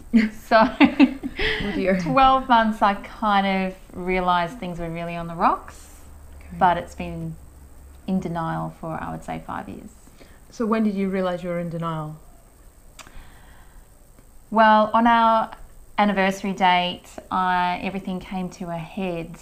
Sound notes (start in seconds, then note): 0.1 laughs